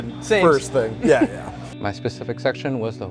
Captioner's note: laughter